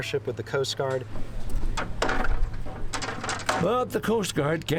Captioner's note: buckets clattering